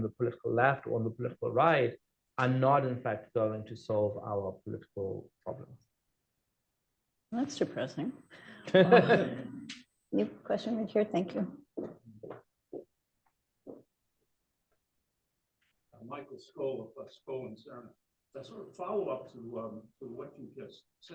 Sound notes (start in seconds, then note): 8.5 laughter